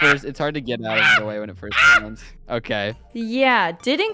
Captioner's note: crow-like panic